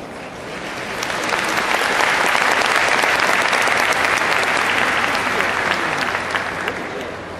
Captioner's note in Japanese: 拍手